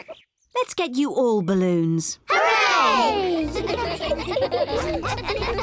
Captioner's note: giggling